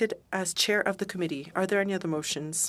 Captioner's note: speaking French